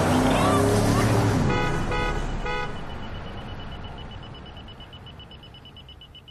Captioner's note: horn honking; machine beeping